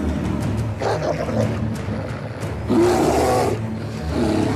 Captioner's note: growling